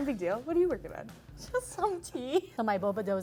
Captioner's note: laughs